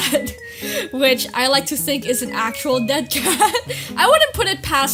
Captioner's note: laughs